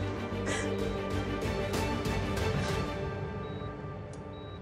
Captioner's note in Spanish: Sollozos